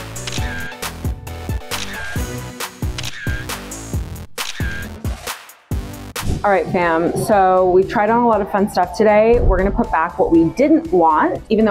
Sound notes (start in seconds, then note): 0.0 camera clicking; 2.9 camera clicking